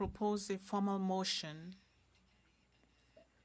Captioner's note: speaking FRENCH